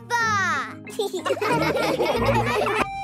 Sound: laughing

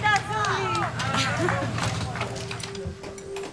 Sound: laughs

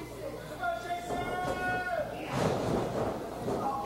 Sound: crowd

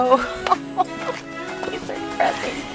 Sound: both laughing

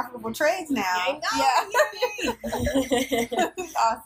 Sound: laughter

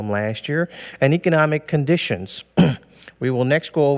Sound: clears throat

